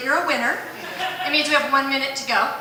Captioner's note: laughter